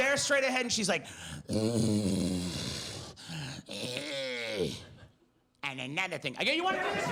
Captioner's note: heavy breathing